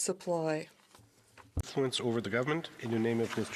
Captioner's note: speaking in french